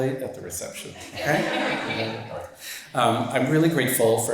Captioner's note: audience laughs